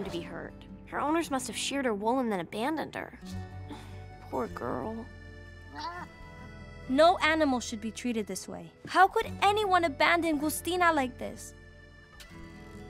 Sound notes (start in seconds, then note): 5.7 pitiful bleating